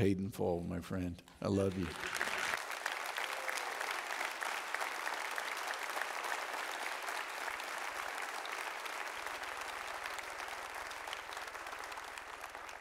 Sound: audience Applauds

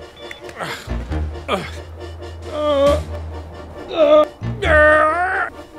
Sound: grunting

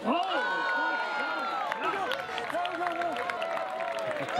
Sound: cheering

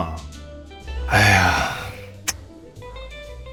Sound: sigh

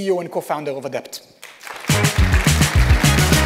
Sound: applause

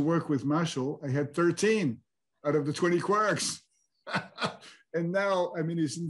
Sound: laughs

